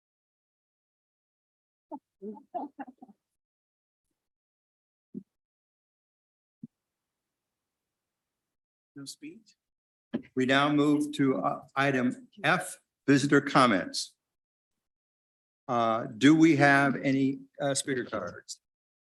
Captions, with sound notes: (board members chuckle) - No speech? We now move to Item F, visitor comments. Do we have any speaker cards?